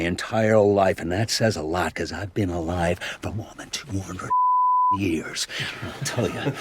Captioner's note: beeping